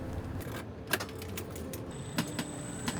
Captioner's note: keys clank; electric motor whirls